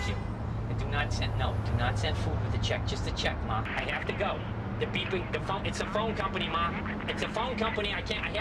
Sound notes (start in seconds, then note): 5.6 automated voice speaking